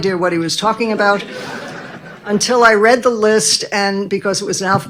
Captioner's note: audience laughing